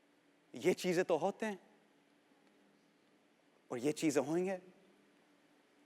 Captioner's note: speaking Hindi